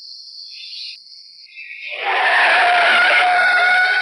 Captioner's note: tires squealing